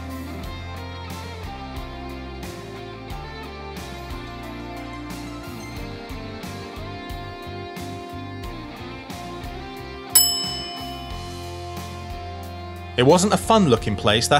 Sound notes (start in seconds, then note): 0.2 gentle rock music; 10.1 bell dings